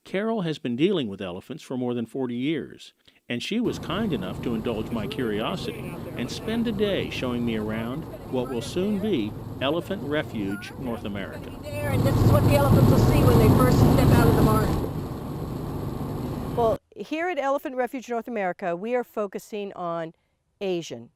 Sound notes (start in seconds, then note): 11.7 car sounds